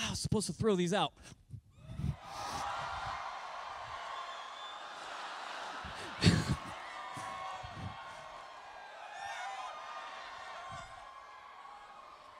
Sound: cheering

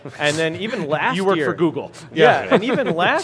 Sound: laughs

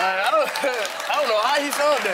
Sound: laughs; audience applauds

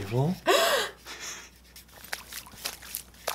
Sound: gasps; splashing

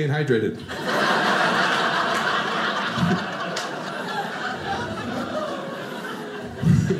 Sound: audience laughing

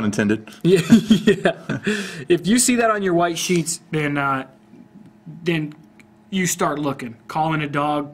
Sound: laughs

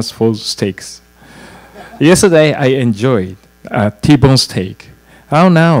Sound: laugh

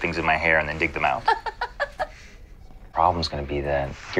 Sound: Meredith laughs

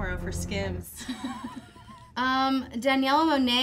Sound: laughing

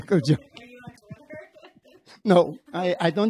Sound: laughing

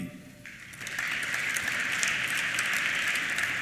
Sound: applause

